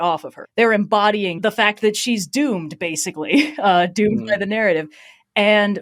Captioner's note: laughs